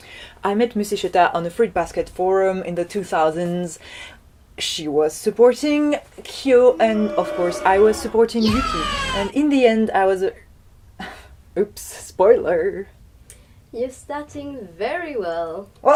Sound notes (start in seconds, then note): 6.7 booouuuh sound; 6.7 yeaaaaah sound